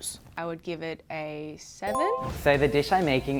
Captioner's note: bell chiming